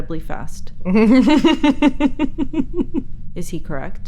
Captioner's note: Elizabeth laughs